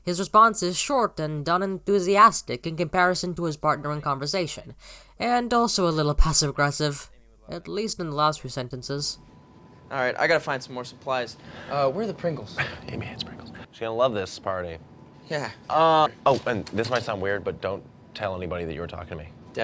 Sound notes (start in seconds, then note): 13.0 under his breath